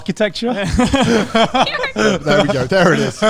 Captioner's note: all laughing